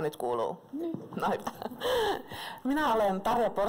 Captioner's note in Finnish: Naurahtaa